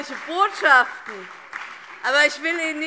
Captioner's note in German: Beifall BÜNDNIS 90/DIE GRÜNEN